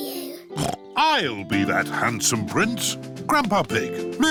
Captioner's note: snorts